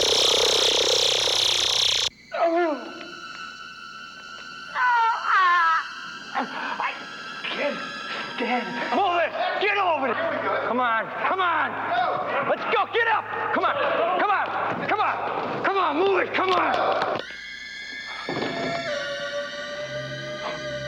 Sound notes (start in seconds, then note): 2.2 groaning; 17.2 tense electronic music